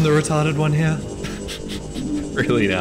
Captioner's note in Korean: 웃음